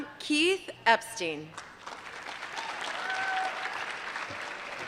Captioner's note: applause